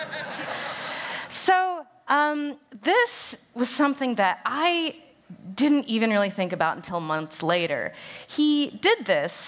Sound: laughter

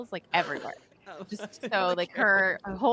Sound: laughing

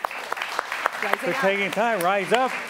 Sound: applause

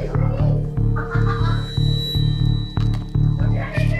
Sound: suspenseful music; foreboding zing; customers chatting indistinctly

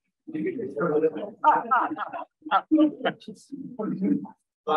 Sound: group laughs

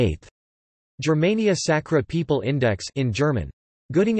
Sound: in German

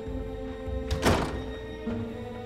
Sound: the door closing sound

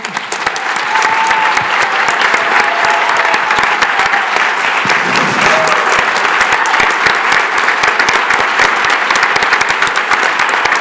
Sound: applause

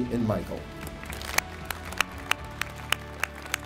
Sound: audience applauds

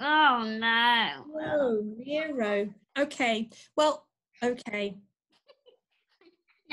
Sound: laughs

